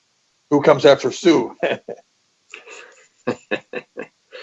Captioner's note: laughs